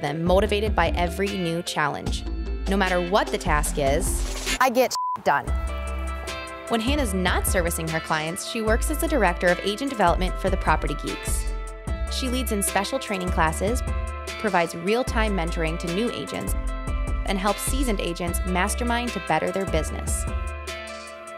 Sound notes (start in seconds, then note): 4.8 beep